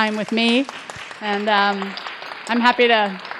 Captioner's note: audience applauding